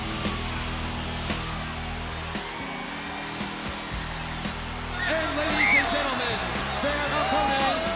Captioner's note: crowd cheering